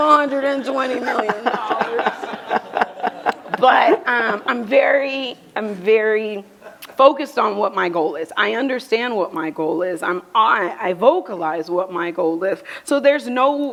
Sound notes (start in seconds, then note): 2.0 laughter